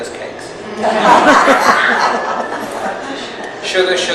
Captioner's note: audience laughs